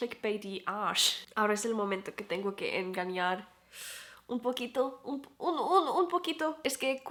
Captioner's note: in spanish